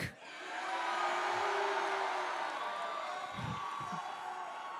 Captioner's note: crowd cheers